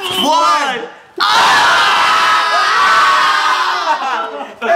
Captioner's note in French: hurlements